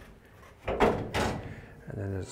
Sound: car hood bangs

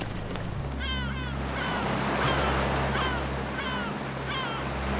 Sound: gulls crying

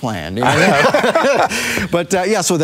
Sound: laughing

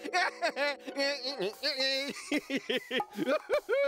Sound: humming taunting melody; laughing

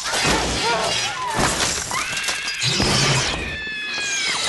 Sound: screams

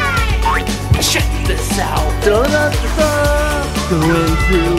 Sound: exclaims

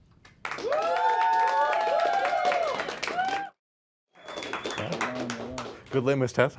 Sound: crowd cheers

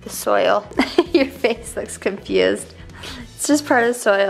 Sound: chuckling

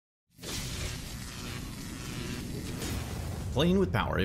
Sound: electricity hissing

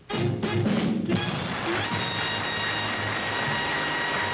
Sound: audience applauding

